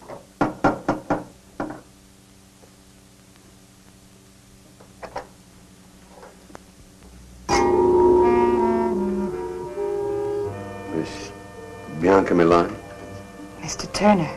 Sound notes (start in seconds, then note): 0.4 knocking; 7.4 soft, mysterious music